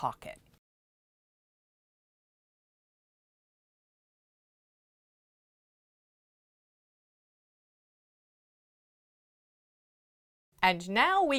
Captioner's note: no Sound Present